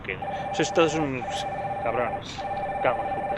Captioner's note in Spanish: sonido telefono